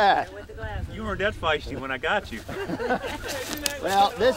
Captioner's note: laughs